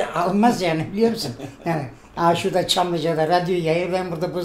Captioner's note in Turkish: Gülüşme sesleri